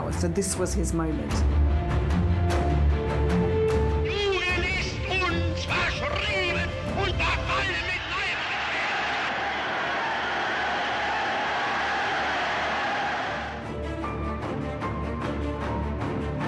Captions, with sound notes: So this was his moment. He left us behind when all of us were with him. (crowd cheers) (dramatic music)